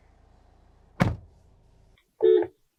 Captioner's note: door Thud